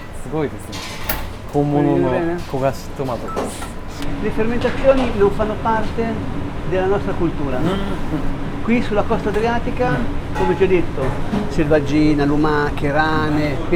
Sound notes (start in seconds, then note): 4.0 Italian